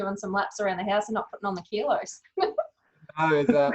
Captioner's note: laughs